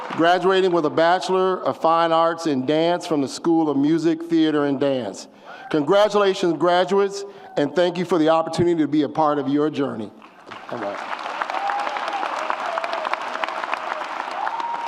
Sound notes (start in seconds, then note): 10.5 audience cheers